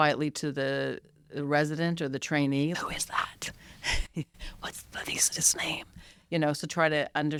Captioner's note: whispering